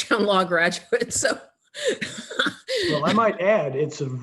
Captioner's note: laughing